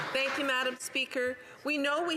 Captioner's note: some Applause